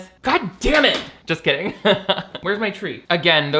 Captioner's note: laughs